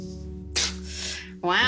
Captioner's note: both laughing